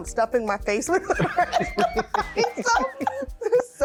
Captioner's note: laughing